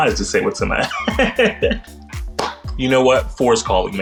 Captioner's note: laughing